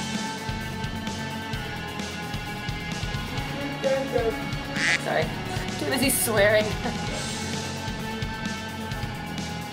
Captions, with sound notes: I'm sorry. Too busy swearing. *Laughs*